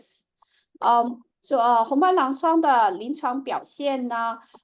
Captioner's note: speaking chinese